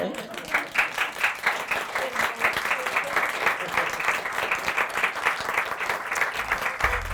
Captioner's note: applause